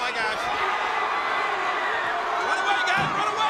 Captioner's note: audience cheers